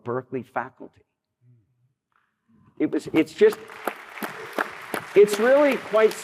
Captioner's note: applause